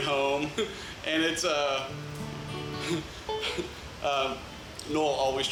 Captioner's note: laughs